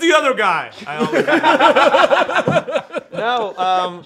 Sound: laughter

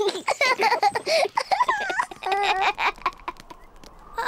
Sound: both laugh; wind whistling

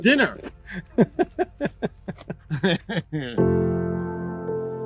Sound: laughing

